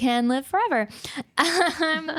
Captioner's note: laughing